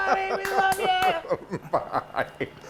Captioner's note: laughs